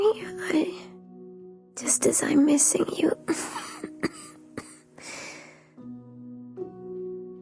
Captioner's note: cough